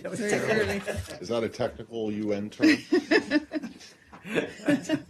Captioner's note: laughter; laughter